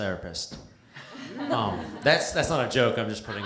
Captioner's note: laughter